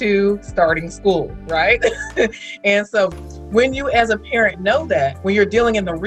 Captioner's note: laughs